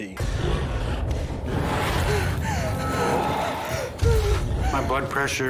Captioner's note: snarling; gasping